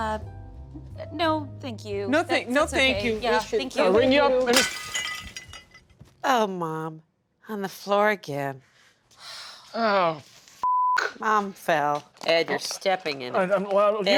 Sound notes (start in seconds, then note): 4.5 urn crashes; 10.6 beep